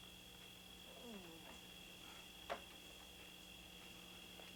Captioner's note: Tater moaning